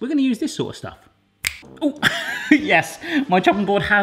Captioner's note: fingers snapping